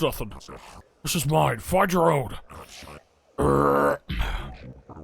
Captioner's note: burps